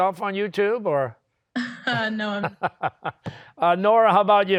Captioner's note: chuckles